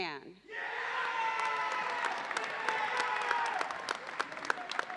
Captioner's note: audience cheers and applauds